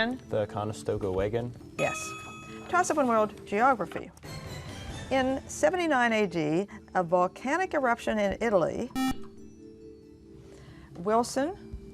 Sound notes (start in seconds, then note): 8.9 beeping